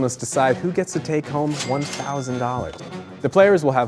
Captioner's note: cash register chimes